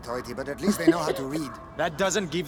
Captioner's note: laughs